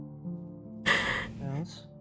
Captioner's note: ROSE sighs